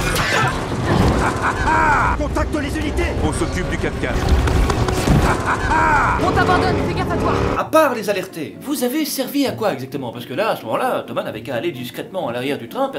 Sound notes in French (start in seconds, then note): 0.0 rire; 4.2 Bruit de tir de l'hélicoptère